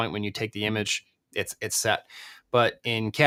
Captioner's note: none